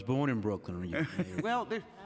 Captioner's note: laughter